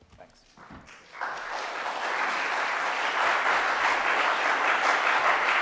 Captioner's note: audience applauding